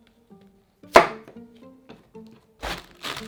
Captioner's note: knife chopping